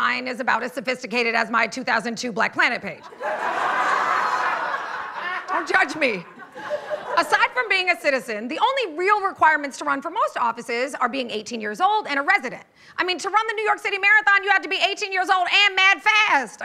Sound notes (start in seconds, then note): 3.0 laughter